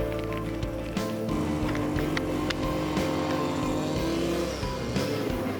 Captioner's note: drill whirring